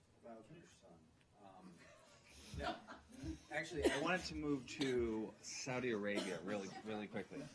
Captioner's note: laughter